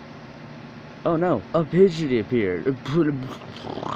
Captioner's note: motorcycle revving aways sounds